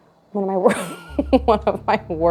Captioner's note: laughs